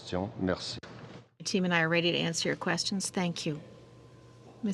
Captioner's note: speaking french